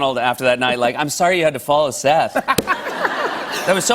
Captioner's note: laughter